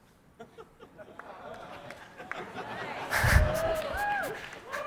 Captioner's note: audience laughs and claps